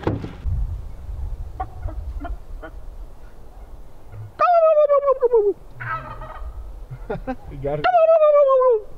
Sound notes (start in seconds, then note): 5.7 makes gobble sound; 5.8 turkey gobbles; 6.8 laughing; 7.8 makes gobble sound